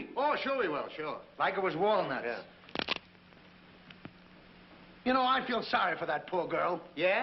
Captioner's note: crack